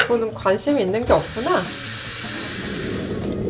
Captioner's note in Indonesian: suara air